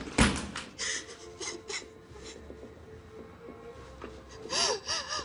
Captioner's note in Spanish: Sollozos